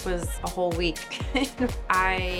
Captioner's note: laughs